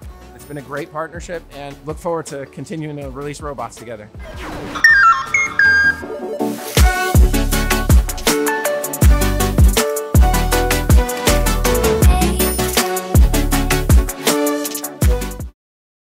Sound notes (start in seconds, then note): 4.7 robot beeping